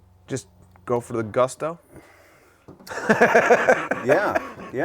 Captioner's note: man laughs